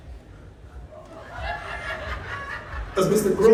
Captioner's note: laughter